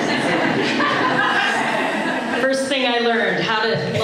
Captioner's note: laughter